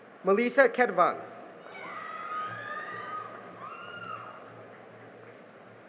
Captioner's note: cheering and applause